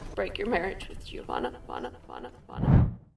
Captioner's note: echo